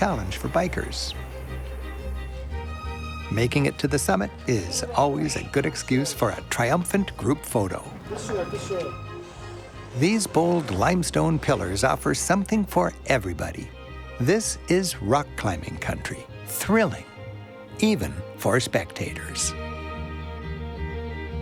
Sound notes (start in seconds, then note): 9.2 speaks foreign language